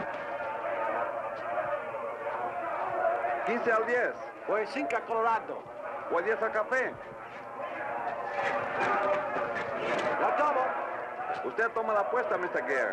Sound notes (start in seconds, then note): 0.2 muffled crowd shouting; 3.1 speaking in a foreign language